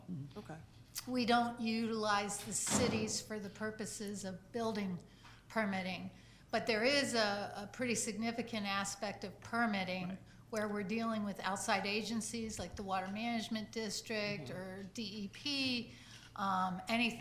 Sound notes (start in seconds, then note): none